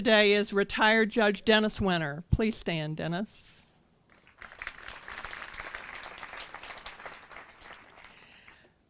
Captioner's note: applause